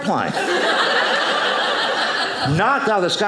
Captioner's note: audience laughing